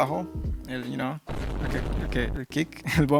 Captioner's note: meme sound effect